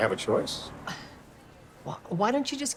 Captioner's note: Grace scoffs